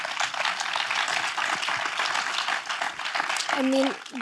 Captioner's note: audience clapping